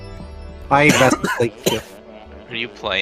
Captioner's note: coughs